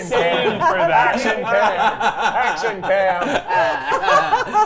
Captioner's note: laughing